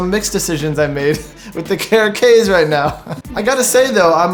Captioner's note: laughing